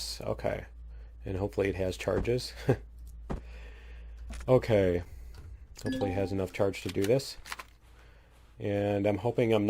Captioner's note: laughs